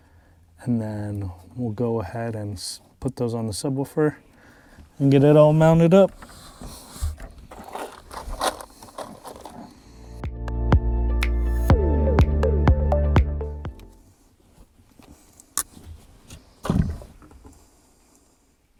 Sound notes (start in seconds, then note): 8.1 box rattling; 10.2 bright dance music; 15.6 cutters thumping